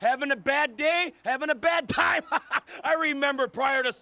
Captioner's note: laughs